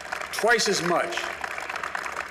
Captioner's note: applause